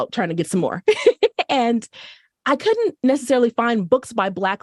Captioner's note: laughter